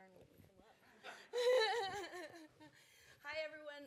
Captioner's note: laughter